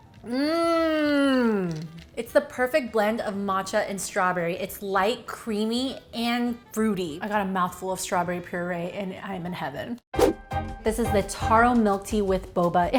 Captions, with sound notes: Mm, It's the perfect blend of matcha and strawberry. It's light, creamy and fruity. I got a mouth full of strawberry puree and I'm in heaven. (air whooshing) This is the Taro milk tea with Boba.